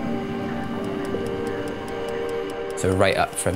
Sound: clock ticking

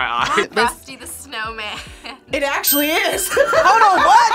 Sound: laughs

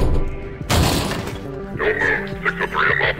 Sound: door crashing; metal clanging

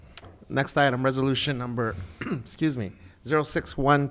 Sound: coughs

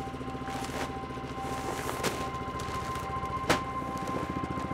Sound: seed bags rustling

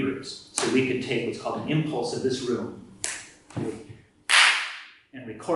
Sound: snap! clap!

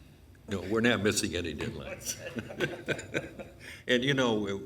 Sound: laughs

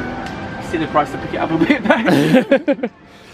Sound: laughs

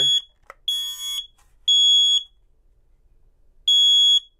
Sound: alarm beeps

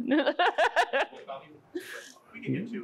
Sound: laughs

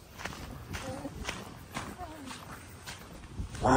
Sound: laughing

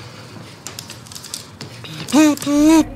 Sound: Jeremy panting

